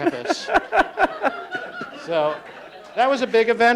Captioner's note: laughing